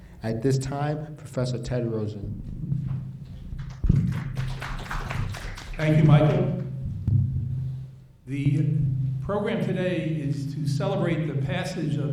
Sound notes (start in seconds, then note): 3.5 applauding